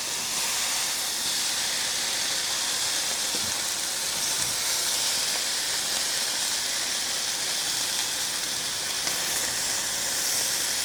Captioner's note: sizzling